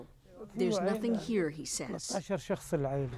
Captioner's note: speaking alternate language